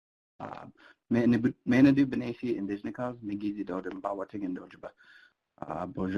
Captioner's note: speaking foreign language